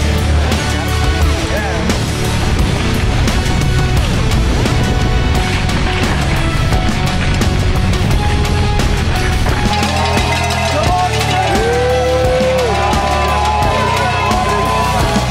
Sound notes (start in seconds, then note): 0.0 uplifting music; 9.1 crowd; 12.1 uplifting music